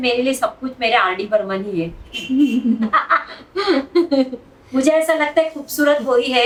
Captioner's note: both laugh